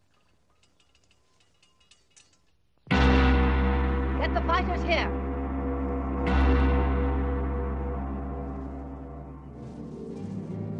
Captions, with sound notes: (gong sounding) Get the fighters here. (gong sounding)